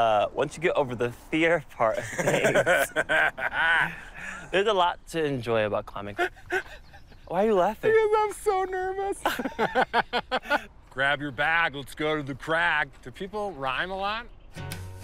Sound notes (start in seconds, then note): 6.1 laughs; 9.0 both laugh